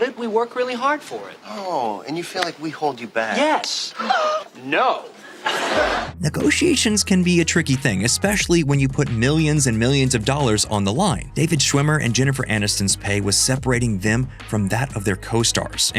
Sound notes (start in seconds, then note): 4.1 gasp; 5.3 laughing